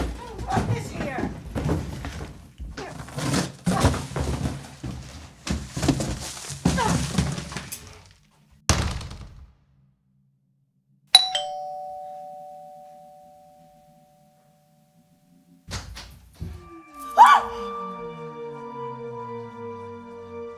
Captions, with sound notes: I don't want this here. [doorbell] [eerie music]